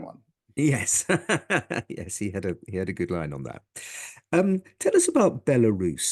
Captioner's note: laugh